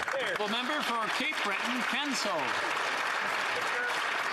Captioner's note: some Applause